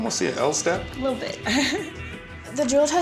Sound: giggling

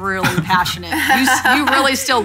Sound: laughing

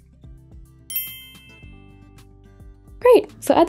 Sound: bell chimes

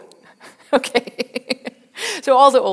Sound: laughs

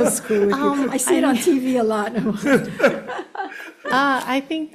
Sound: laughs

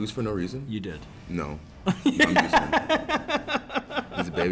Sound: laugh

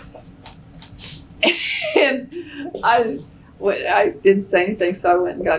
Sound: laughter

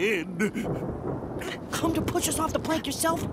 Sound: thunder clap

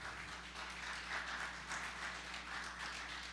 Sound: applause

